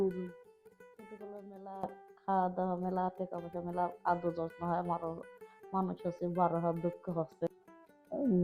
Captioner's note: speaking bengali